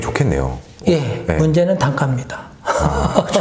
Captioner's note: Laughs